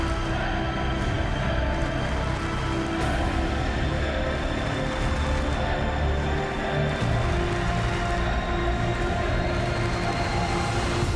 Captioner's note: fans chanting